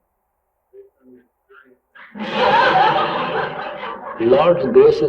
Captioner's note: laughter